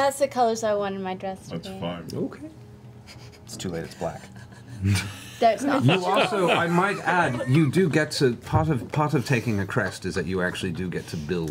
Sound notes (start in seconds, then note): 4.1 all laugh